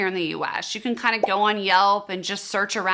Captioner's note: bubble popping